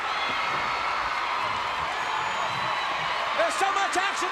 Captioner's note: crowd cheering